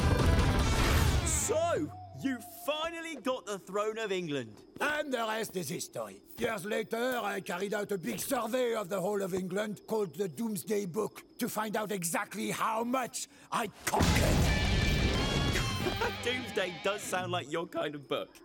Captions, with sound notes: - So, you finally got the throne of England. - And the rest is history. Years later, I carried out a big survey of the whole of England called "The Doomsday Book", to find out exactly how much... (rock music) I conquered. (chuckling) - Doomsday does sound like your kind of book.